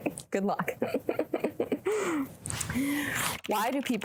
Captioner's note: laughing